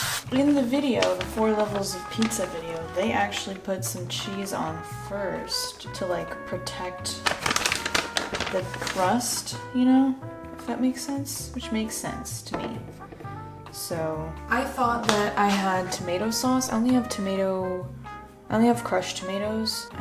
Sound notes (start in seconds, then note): 7.0 cheese bag crinkles